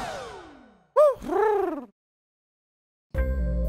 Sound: Huti hoots

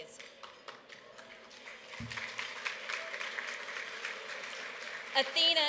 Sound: applause

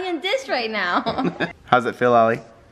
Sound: laughter

